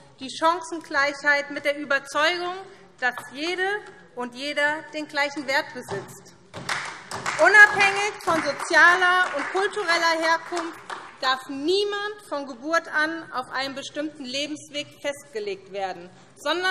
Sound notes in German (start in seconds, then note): 6.6 Beifall SPD